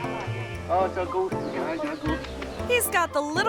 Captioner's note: tourist faintly speaking